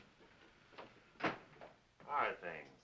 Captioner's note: door closes